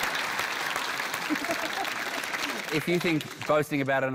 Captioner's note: laughter; applause